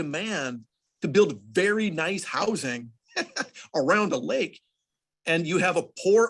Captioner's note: laughs